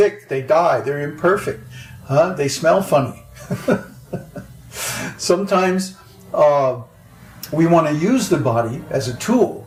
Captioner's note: laughs